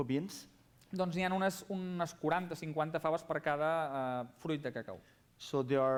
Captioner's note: non-english speech